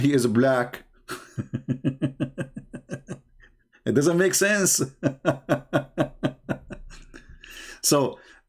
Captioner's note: Ketawa